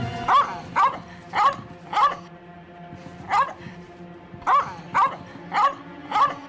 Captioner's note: dramatic music; dog barking